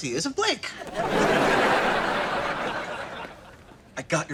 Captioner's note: audience laughter